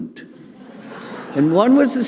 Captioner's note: audience laughing